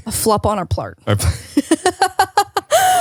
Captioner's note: laughs